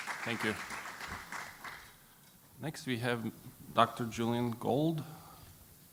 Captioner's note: applause